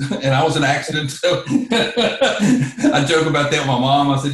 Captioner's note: laughs